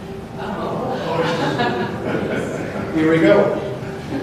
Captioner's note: laughter